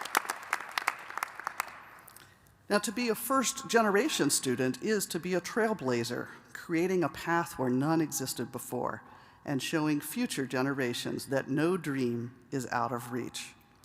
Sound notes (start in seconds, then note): 2.0 applause